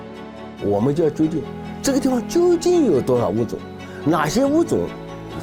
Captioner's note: speaking in foreign language